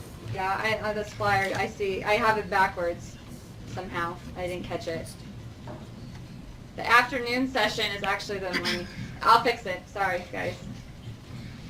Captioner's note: continued talking